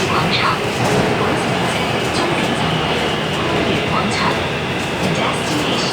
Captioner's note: Cantonese